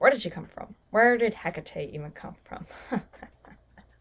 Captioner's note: laughs